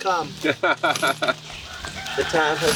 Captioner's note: laughing